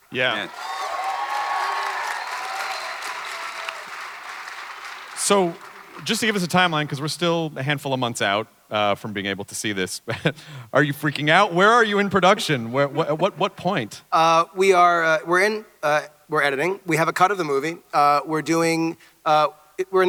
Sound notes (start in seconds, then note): 0.1 clapping and cheering